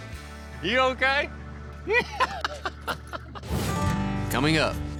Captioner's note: laughter